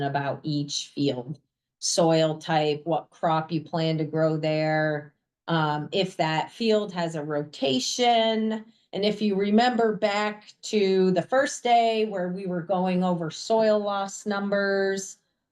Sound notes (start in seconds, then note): none